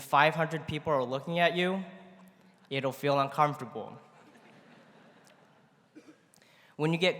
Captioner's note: laughter�